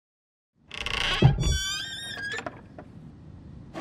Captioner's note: lid creaks